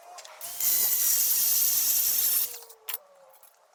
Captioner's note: machine buzzing